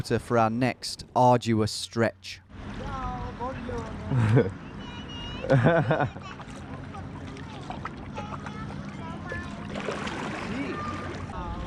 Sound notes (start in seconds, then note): 2.8 speaking in a foreign language